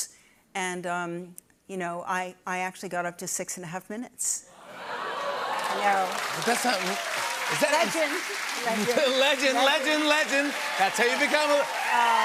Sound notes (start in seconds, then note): 4.6 audience ohhs; 4.6 cheers and applause